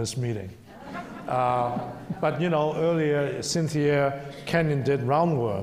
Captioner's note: some laughter from audience